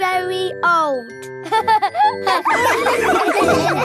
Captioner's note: all laughing